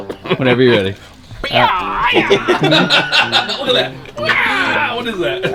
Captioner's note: laughing; making sound effects